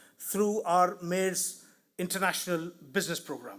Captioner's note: none